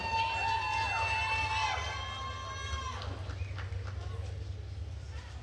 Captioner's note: attendees cheering and applauding